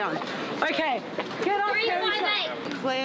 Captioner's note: girls yelling